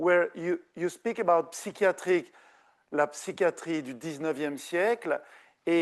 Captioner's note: speaking French; speaking French